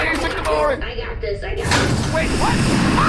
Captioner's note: BARGIE’S hatch opens